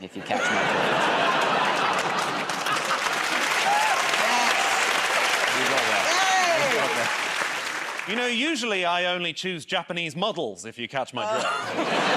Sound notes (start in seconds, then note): 0.2 laughter; 3.5 cheering and applause